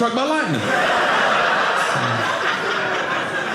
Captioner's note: audience laughing